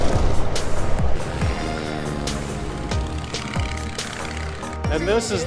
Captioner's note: plane whizzing; soft music; plane whizzing; soft music